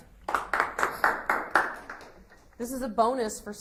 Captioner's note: audience applauds